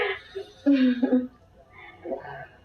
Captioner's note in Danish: klukker